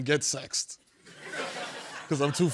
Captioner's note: laughter